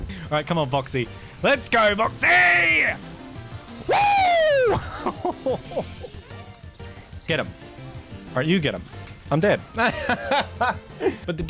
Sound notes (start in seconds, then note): 3.8 excited gamer scream; 9.8 The laughter of a man who regrets playing Medic